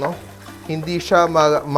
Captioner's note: sizzle